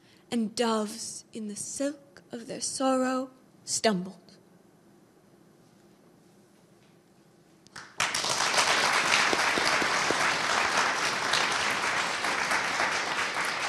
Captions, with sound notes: and doves in the silk of their sorrow stumbled. (audience applauding)